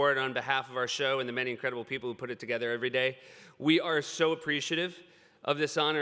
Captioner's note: none